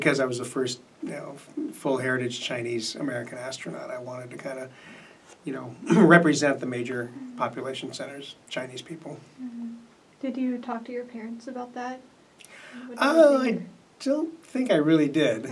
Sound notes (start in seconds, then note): 5.8 clears throat